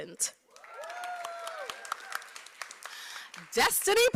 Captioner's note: applause